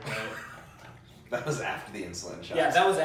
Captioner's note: laughs